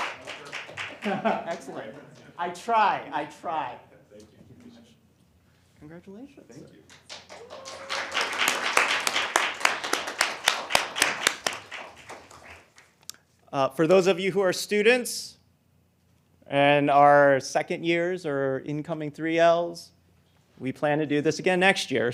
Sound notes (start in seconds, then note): 6.9 applause